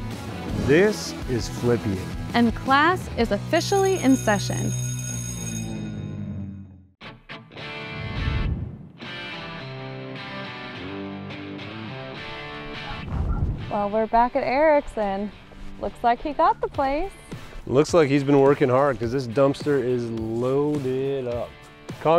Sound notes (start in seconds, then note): 3.4 school bell ringing; 7.1 upbeat rock music